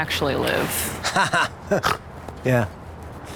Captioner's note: laughs